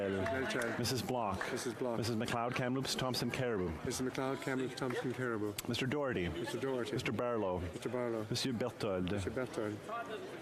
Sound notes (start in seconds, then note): 0.0 applause